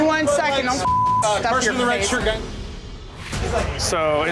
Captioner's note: beep